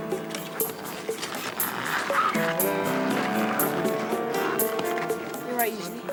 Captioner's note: tense music; cameras clicking; chattering